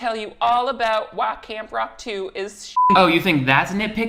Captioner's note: beep